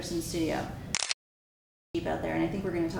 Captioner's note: camera clicks